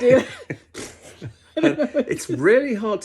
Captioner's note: attempts horse noise; laughs